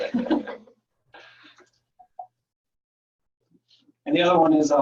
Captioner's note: laughing